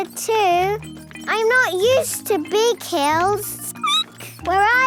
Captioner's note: squeaking